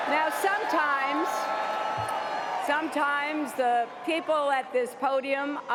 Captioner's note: cheers and applause